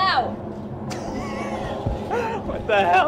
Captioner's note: laugh